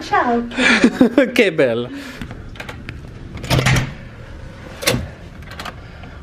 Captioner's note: speaking in foreign language